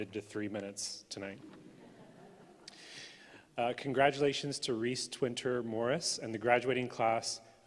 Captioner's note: laughter